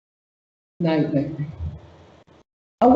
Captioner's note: mic cuts out